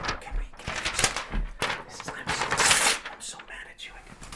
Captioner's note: paper rustling